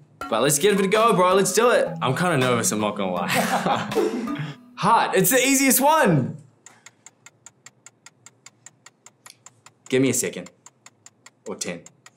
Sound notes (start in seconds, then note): 3.3 laughs; 6.5 ticking